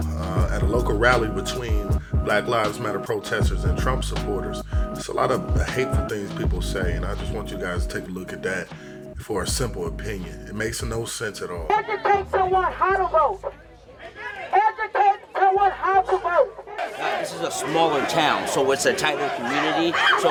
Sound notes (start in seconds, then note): 15.5 crowd chanting